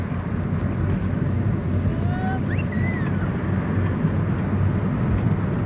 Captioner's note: whistle